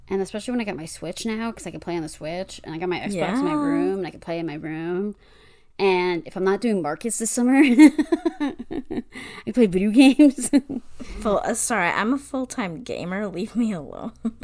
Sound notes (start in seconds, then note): 7.5 laughs